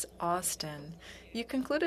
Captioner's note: speaking French